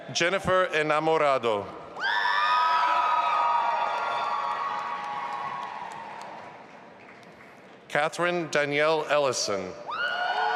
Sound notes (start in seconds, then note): 2.4 audience applauding and cheering